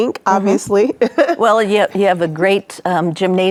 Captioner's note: chuckling